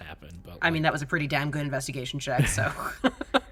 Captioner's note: chuckles